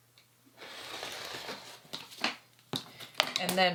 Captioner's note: roller cutting rolling